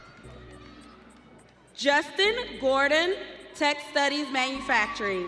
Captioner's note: audience cheering